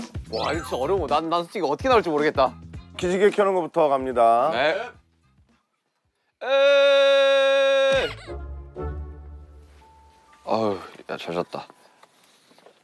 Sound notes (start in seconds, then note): 5.9 laughing carelessly